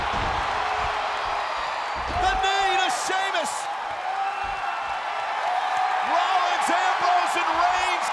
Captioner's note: applause